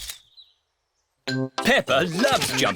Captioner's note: camera clicks